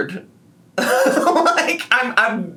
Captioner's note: laughs